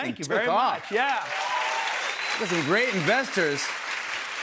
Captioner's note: cheers and applause